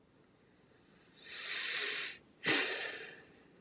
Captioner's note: sigh